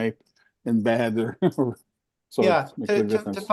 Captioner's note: laughs